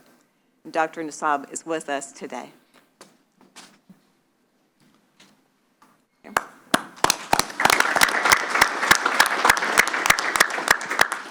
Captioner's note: applause